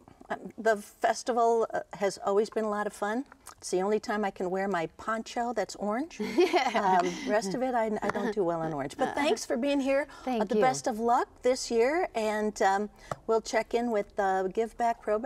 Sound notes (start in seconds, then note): 6.2 laughing